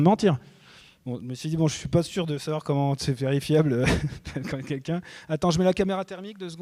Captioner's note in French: rires